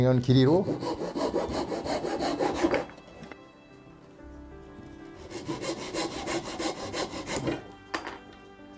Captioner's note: sawing sound